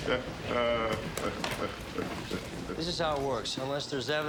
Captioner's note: laughing